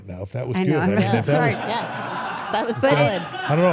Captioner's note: everyone laughs